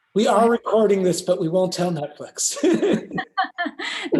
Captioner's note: laughter